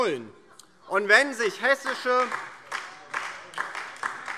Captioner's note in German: Beifall DIE LINKE